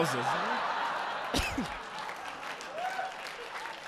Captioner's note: audience laughing